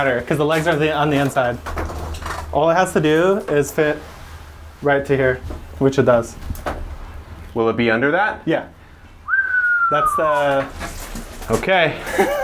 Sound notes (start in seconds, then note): 9.2 whistle